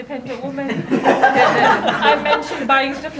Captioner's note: audience laughs